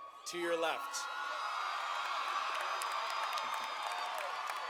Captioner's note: audience cheering